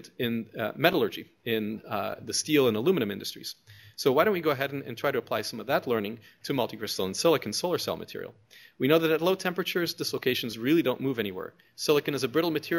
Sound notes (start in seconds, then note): none